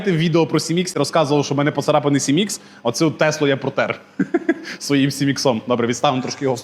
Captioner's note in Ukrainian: сміх